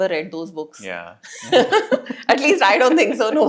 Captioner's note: laugh